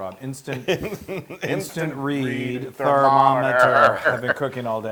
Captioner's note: laugh